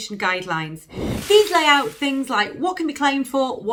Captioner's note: whooshing sound